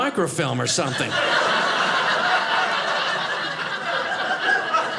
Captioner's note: audience laughing